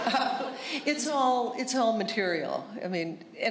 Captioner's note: laughter